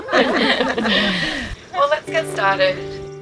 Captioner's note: all laugh